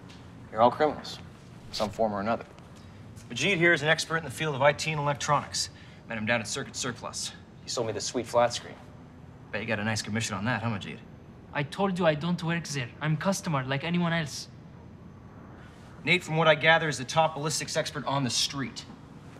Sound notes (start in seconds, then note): none